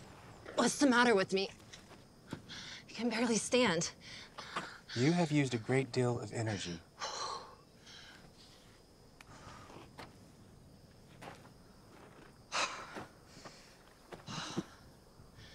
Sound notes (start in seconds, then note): 7.3 Clive panting